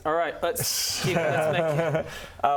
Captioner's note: worried laughs